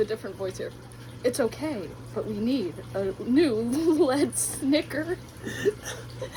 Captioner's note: snicker